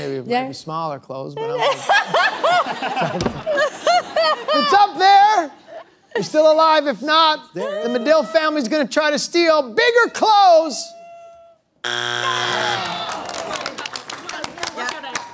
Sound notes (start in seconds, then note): 1.4 laughter; 11.8 buzzer sounds; 12.5 disappointed groans